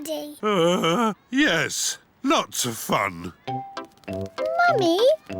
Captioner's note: groans